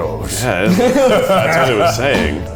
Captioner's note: all laugh